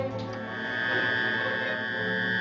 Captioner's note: buzzing